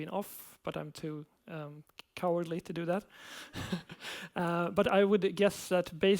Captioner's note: laughs